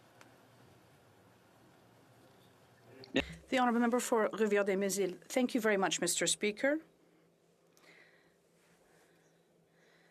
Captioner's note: speaking French